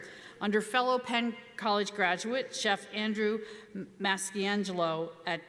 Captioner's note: none